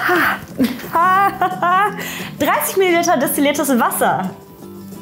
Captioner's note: laughs